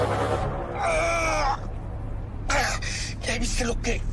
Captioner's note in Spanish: Quejido